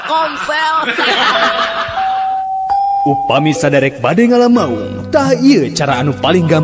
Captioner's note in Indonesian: tertawa